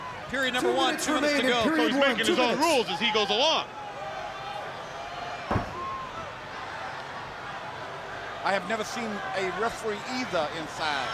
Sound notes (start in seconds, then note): 5.5 kick thudding